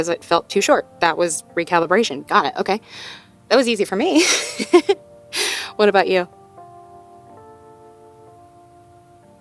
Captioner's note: chuckles